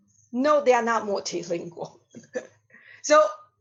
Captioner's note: laughs